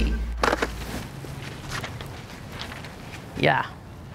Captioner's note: squirt gun clattering